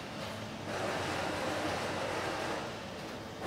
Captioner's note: rumbling, rattling in the background